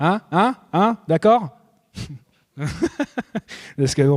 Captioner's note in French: rires